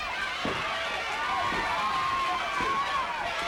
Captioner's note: crowd yelling